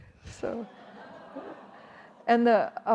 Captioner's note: audience gasping